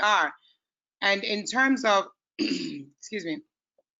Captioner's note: clears throat